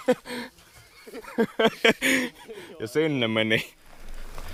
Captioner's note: laughing